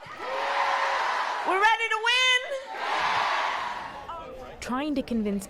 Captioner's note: cheering